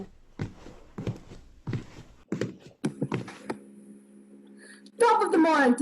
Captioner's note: footsteps